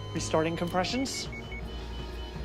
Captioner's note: machine beeping; dramatic music